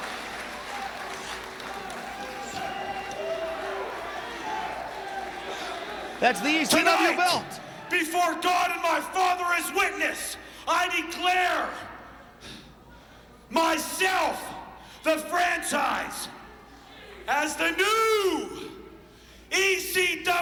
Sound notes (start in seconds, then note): 2.5 crowd cheering